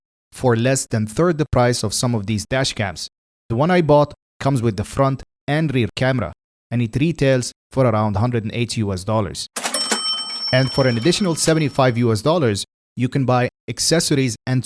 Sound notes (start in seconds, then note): 9.5 cash Register Sound